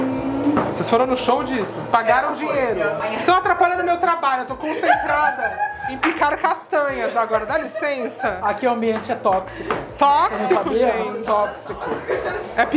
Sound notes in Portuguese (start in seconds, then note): 0.0 cantando; 4.6 risos; 11.7 risos